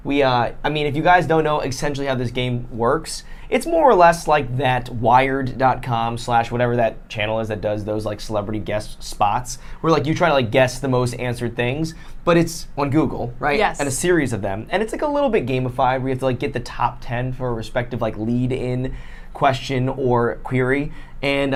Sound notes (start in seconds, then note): none